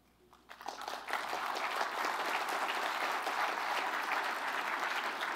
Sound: applause

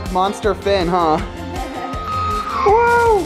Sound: laughing

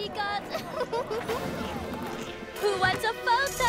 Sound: giggles

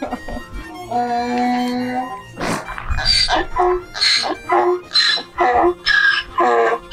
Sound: donkey braying

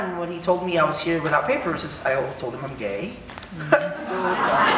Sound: audience laughing; laughs

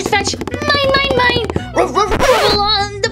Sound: footsteps pattering; Rubble barking

